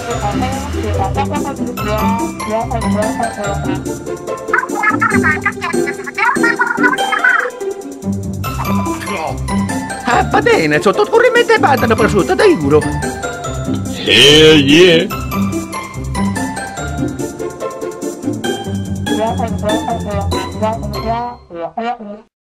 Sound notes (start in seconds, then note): 4.4 Inkling gibberish; 9.9 italian gibberish